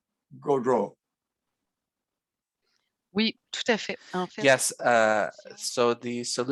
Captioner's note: speaking French